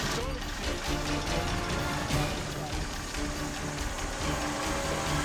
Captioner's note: engine rumbling